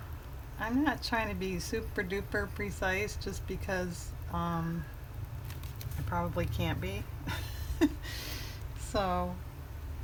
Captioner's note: laughs